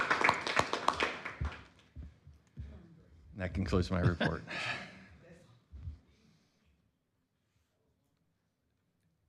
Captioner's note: applause